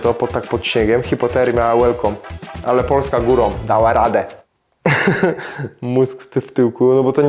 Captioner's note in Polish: śmiech